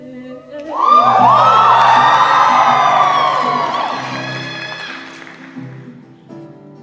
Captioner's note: cheering